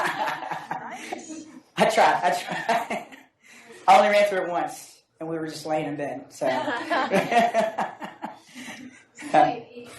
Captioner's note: laughs